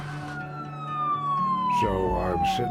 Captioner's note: sounds of sirens